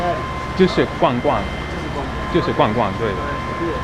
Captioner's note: mandarin